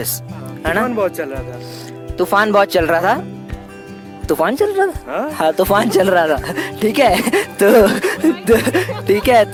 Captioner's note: laugh